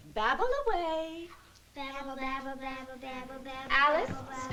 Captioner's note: babbling